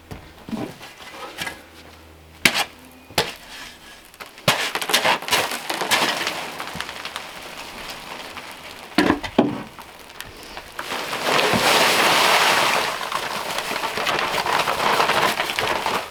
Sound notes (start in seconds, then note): 2.8 smacking; 11.8 rustling